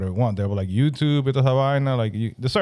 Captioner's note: speaking Spanish